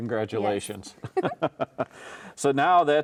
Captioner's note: both chuckling